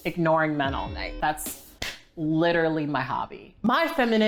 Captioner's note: hands clapping